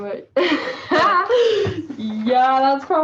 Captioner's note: laughter